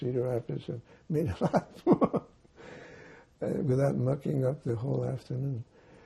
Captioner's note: laughing